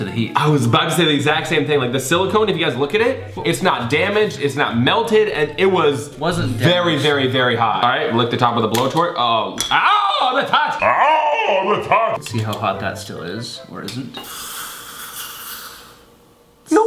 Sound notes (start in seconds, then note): 10.8 screaming; 14.1 sizzling